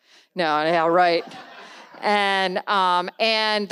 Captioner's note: audience laughs